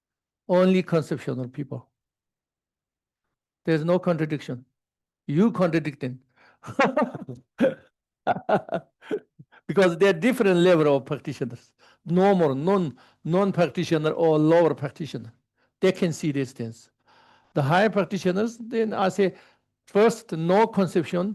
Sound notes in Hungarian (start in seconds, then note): 6.7 Laughs